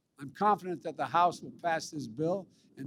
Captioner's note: none